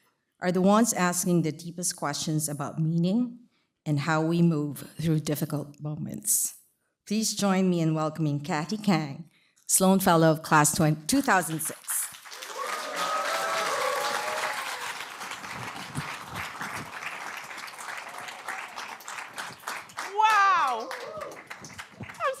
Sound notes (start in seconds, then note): 11.2 applause